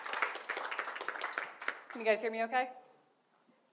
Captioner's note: audience claps